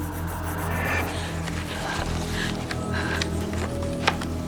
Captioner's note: girl gasping